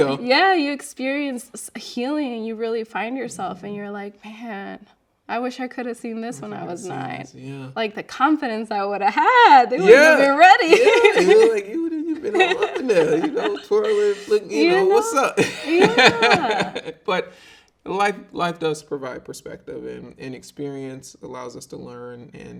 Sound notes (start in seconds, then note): 11.1 laughing; 16.2 laughing